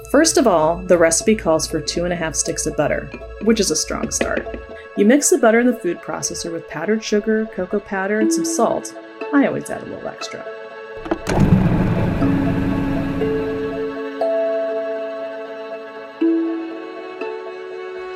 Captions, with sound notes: First of all, the recipe calls for 2 1/2 sticks of butter, which is a strong start. You mix the butter in the food processor with powdered sugar, cocoa powder, and some salt. I always add a little extra. (light music) (motor growling)